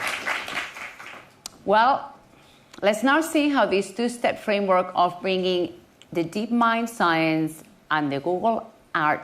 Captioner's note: applause